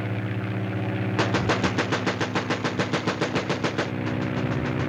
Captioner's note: gun firing